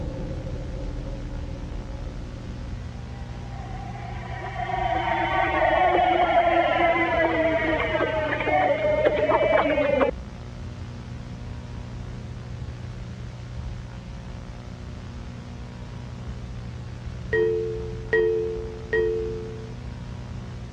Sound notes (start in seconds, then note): 5.0 crowd cheering; 17.3 computer chiming